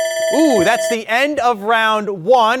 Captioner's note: phone ringing